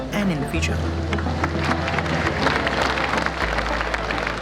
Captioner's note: applause